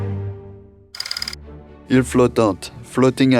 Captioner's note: slide rolling